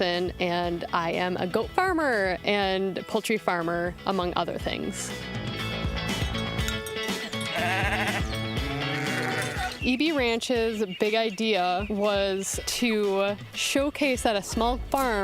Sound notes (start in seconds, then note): 7.3 goats bleating